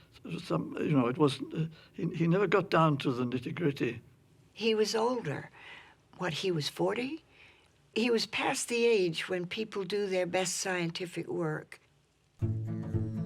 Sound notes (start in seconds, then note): none